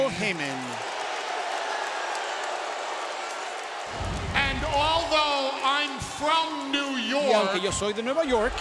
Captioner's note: applause